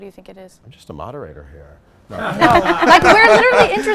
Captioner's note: laughs